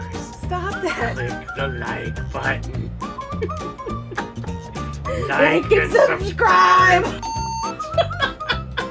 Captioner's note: laughing